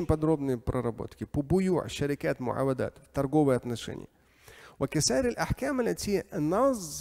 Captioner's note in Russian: говорит на арабском